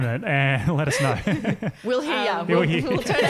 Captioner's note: laughing